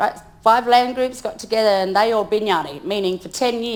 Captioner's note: speaks in foreign language